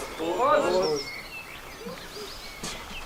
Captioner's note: birds chirping